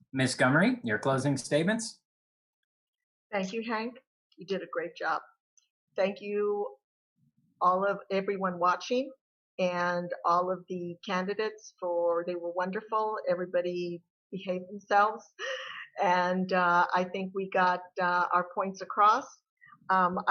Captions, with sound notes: Miss Gummere, your closing statements. - Thank you Hank, you did a great job. Thank you everyone watching. And all of the candidates for they were wonderful. Everybody behaved themselves (chuckles) and I think we got our points across.